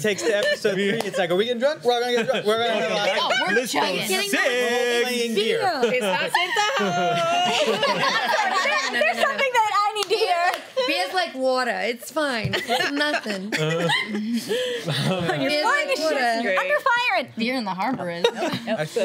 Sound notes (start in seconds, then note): 5.8 laughing; 12.6 laughing